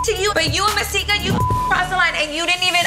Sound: beep

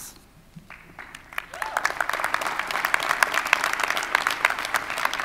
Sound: audience applauding

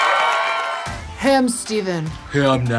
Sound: audience cheers and applause; in deep voice

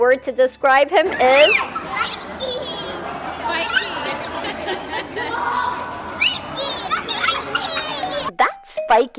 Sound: children laughing

